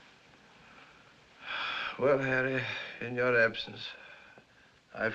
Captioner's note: sighs